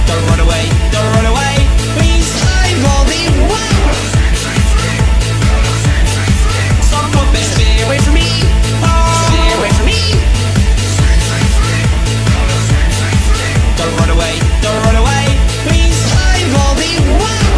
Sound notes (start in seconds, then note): 8.8 DanTDM Screaming